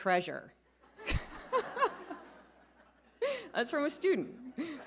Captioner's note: all laughing